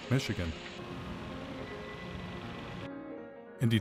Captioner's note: truck engine rumbling